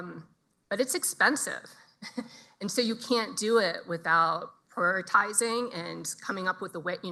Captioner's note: chuckles soflty